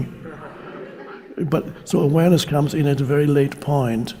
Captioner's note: audience laughing